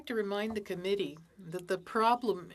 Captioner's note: speaking FRENCH